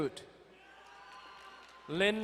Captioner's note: distant cheering